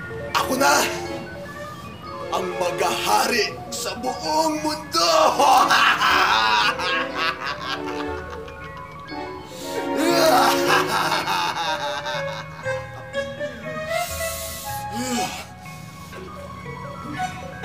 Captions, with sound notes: I will be the one who will rule the whole world! [laughing] [Alex grunts]